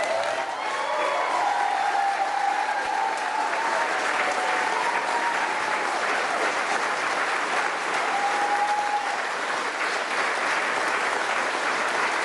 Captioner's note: applause